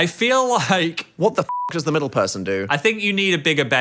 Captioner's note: beep